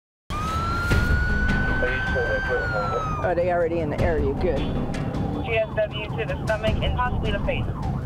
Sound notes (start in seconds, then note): 0.3 sirens wailing; 1.4 man speaking on radio